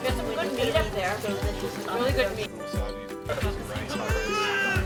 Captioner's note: party attendees faintly chatting; baby crying